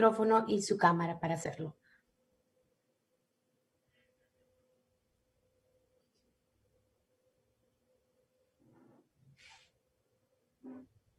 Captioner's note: speaking spanish